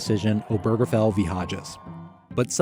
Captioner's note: protester shouting faintly; crowd cheering